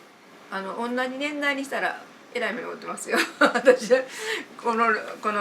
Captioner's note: laughs